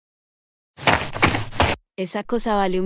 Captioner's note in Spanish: FX - Footsteps - On Multiple Dirt - Run